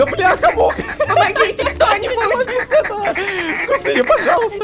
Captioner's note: screamer